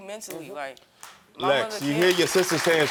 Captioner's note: audience applauding